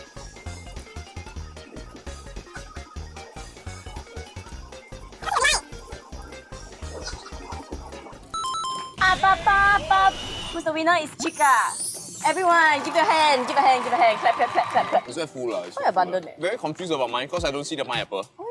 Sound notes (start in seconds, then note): 12.8 claps